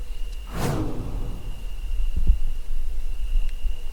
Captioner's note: air whooshing